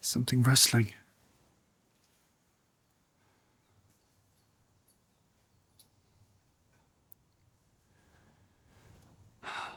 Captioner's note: silence